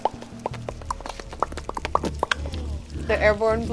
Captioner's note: worms pop